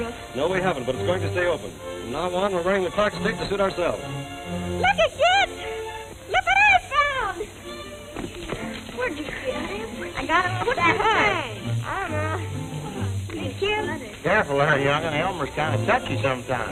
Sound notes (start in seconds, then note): 11.8 kid's chatter